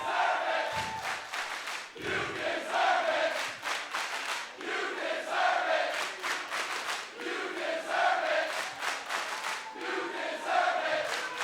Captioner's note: fans chanting